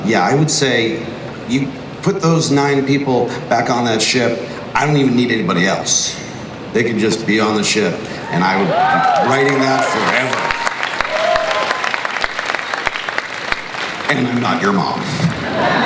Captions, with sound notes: I would say, you put those nine people back on that ship I don't even need anybody else. They could just be on the ship, and I would be writing that forever. (crowd cheers and applauds) And I'm not your mom.